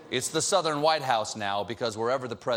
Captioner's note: audience reacts